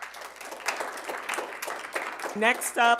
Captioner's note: audience applauding